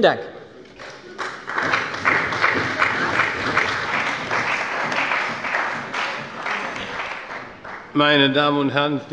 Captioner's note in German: Beifall bei der CDU und dem BÜNDNIS 90/DIE GRÜNEN